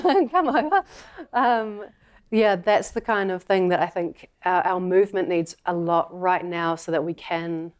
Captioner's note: laughter